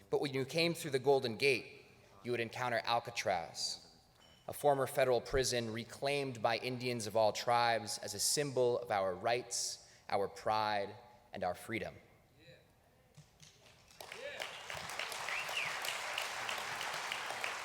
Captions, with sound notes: but when you came through the Golden Gate, you’d encounter Alcatraz, a former federal prison reclaimed by Indians of all tribes as a symbol of our rights, our pride, and our freedom. [APPLAUSE]